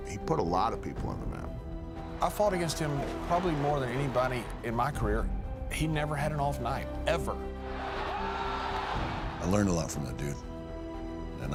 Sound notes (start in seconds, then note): 7.6 crowd roaring; 8.1 commentator yelling